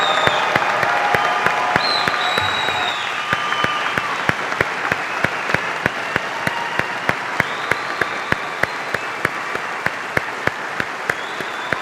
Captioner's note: cheers and applause